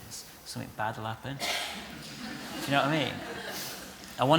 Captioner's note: laughter